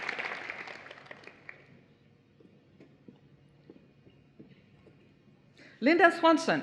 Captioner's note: applause